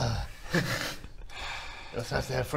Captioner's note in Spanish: suspiro